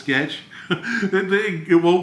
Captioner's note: chuckles